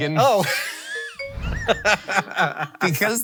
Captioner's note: laughing